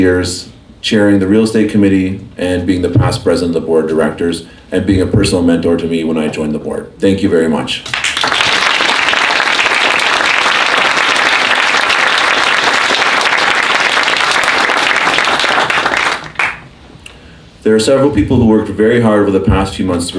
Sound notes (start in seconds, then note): 7.9 applause